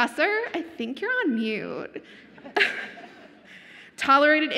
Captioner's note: laughs